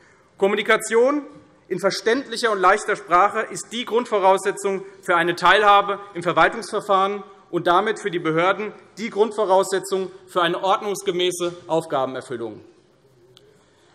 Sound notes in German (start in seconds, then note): none